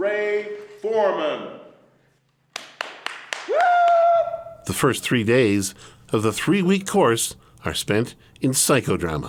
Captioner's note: applause